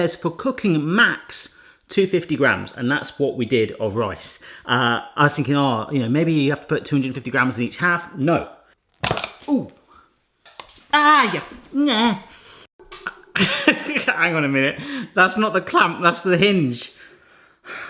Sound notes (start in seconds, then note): 11.8 groans; 14.0 laughs